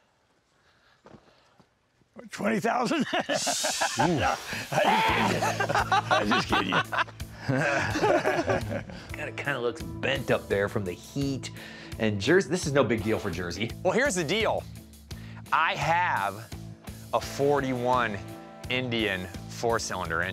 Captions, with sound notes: $20,000? [laughs] -Oof. -[laughs] I'm just kidding you. [chuckles] It kind of looks bent up there from the heat. And this is no big deal for Jersey. Well, here's the deal. I have a '41 Indian four cylinder engine.